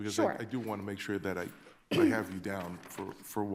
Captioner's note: attendee clears throat